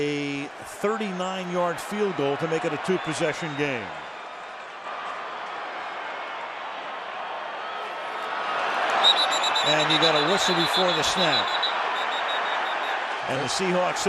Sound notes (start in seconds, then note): 8.9 whistle blows